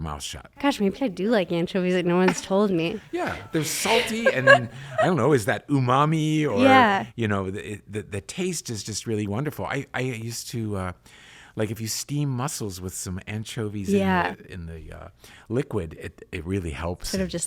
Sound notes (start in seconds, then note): 2.1 laughs